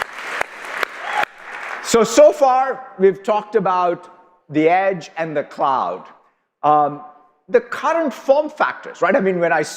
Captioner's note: applause